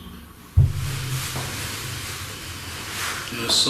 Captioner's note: bumping